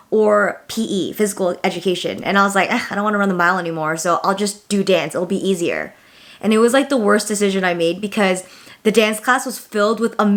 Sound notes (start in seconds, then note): none